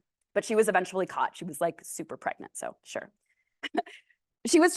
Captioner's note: laughs